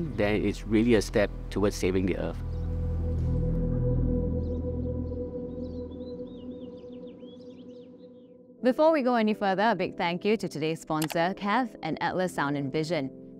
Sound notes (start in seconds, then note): 2.7 birds tweeting; 2.7 tranquil music